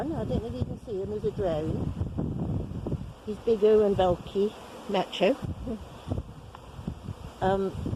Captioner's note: wind noises